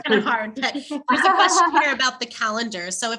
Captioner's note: laugh